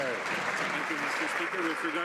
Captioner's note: some Applause